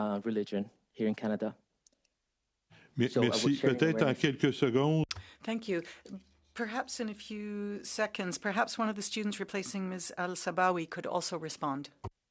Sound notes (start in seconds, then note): 9.1 speaking French